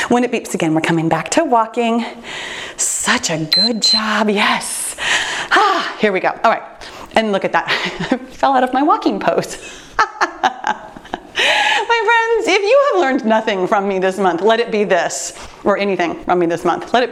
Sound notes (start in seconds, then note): 3.5 timer beeps; 5.6 sighs; 9.9 laughs